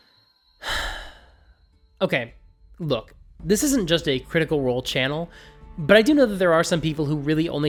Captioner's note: sigh